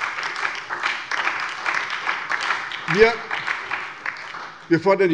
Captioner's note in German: Beifall bei der SPD und der LINKEN